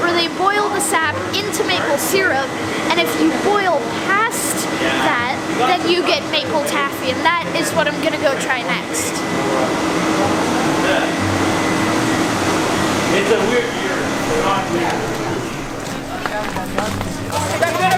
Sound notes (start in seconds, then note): 11.3 workers talking